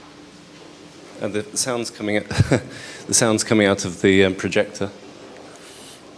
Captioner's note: chuckles